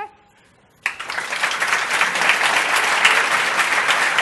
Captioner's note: applause